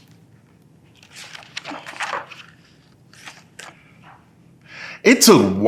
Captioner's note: pages rustling